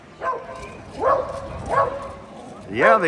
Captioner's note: dog barking